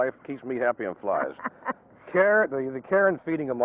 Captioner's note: laughing